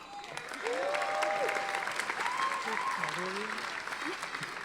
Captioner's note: audience applauding